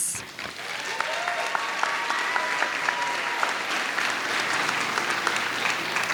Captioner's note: audience cheers and applauds